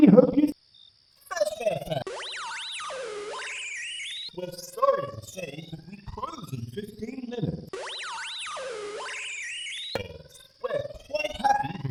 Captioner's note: intercom Speaker glitches out again